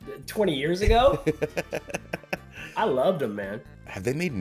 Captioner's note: laugh